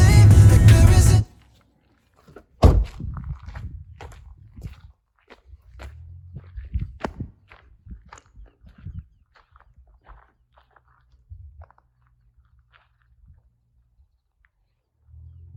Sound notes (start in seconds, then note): 4.0 Chuck's footsteps trekking across ground